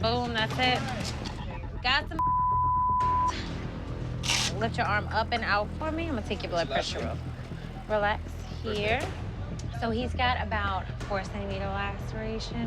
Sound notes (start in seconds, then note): 4.2 velcro ripping